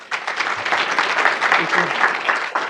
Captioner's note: audience applauding